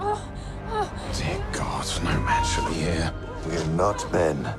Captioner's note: screaming